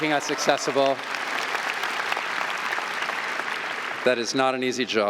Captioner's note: audience applauding